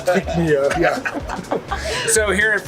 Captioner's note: laughs